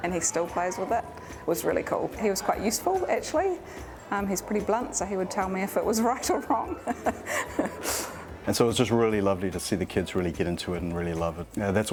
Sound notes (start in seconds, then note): 5.9 laughs